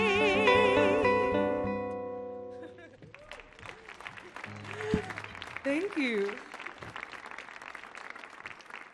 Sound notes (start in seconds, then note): 2.5 laughs; 2.8 audience clapping